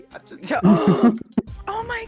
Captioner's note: gasp